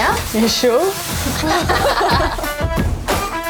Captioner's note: laughter